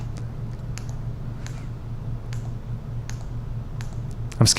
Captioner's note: clicking